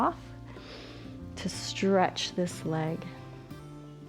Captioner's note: inhales